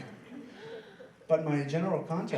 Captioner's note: laughing